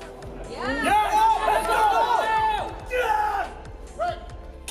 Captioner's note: crowd cheers